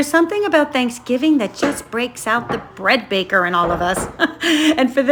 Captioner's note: laughs